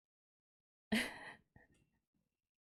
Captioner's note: laughs